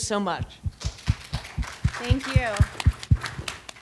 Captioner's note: audience applauds